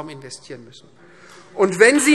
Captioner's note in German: Beifall Freie Demokraten